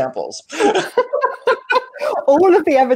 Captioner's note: laughing